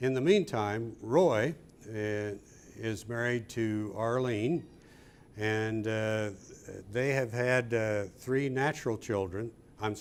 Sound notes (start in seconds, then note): none